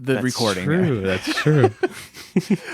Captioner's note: laughs; laughing